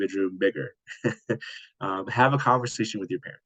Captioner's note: laughing